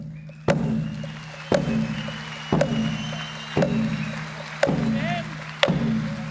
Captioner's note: audience applauds and cheers